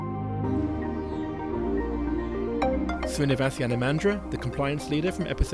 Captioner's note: voiceover